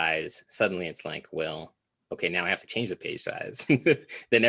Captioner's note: laughs